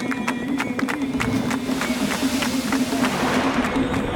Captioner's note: waves crashing